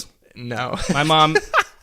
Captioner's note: laughs